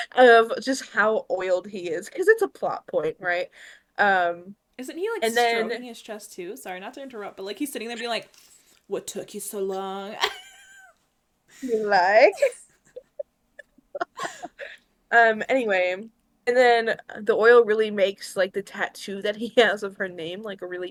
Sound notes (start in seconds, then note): 11.6 laughs